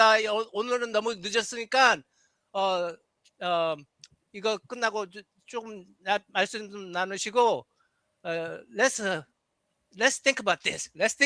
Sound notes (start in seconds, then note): 0.7 non-english speech